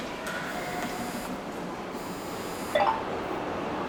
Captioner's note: subway noises